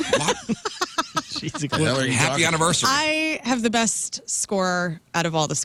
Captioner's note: laughing